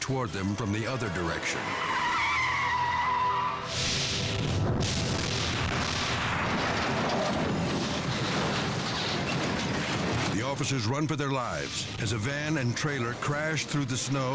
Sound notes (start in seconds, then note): 1.8 tires screeching; 3.8 vehicle crashing; 6.8 dramatic music